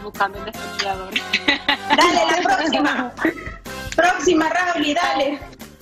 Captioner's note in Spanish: risas